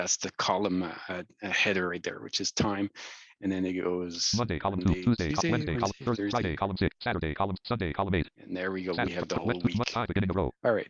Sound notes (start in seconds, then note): 4.7 rapid screen reader audio output